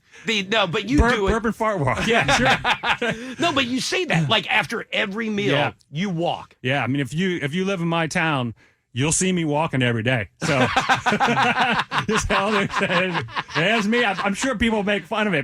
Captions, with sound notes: (laughing) No, but you do it. Fart walk, yeah. (laughing) No, but you say that, like after every meal, you walk. Yeah, I mean, if you live in my town, you'll see me walking every day. (laughing) That's me, I'm sure people make fun of it,